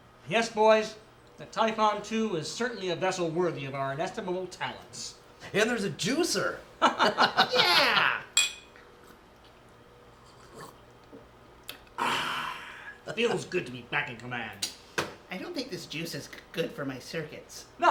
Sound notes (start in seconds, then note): 6.8 laughing, clinking glasses